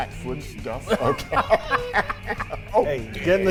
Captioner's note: commentators laughing